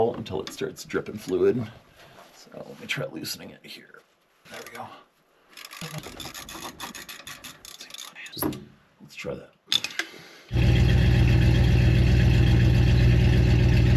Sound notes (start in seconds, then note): 5.6 ratchet whirring; 10.5 engine rumbling